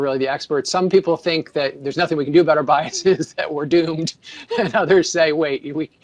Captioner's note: laughs